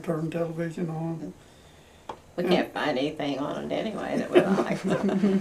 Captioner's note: laughter